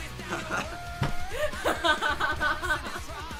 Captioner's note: laughing